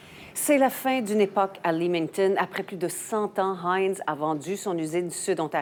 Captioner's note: speaking in foreign language